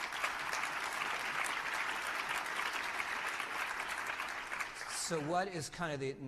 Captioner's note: applause